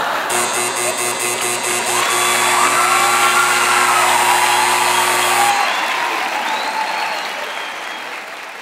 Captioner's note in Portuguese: campainha e aplausos